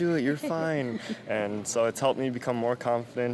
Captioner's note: laughing